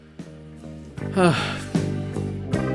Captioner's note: sighs